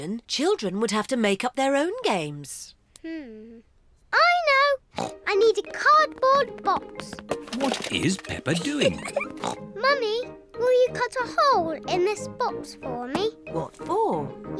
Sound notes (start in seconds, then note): 5.0 snorts